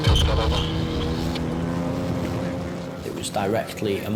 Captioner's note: lifeboat engine whirring